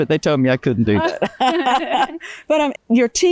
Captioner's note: laughs